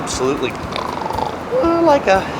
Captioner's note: snores